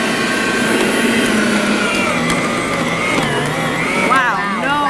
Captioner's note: grinder whirring